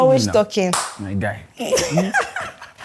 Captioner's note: claps hands; laughs